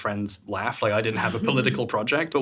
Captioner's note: chuckling